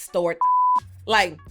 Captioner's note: beep